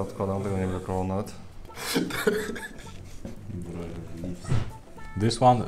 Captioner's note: laughing